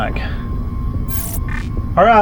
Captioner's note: static buzzing